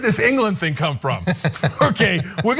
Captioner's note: laugh